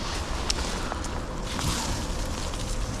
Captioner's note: leaves rustling